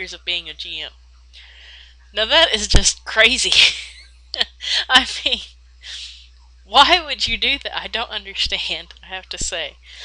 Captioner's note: laughs